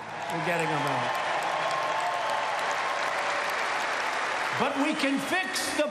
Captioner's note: applause